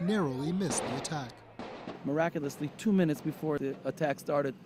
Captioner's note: gunshots